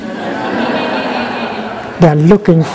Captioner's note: laughter